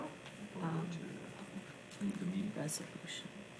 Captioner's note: mumbles